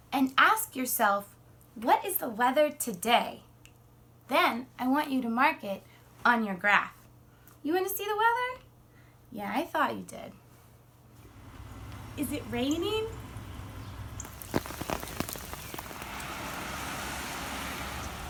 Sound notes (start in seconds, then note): 14.5 rain falling